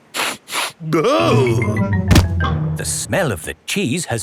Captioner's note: sniffs and groans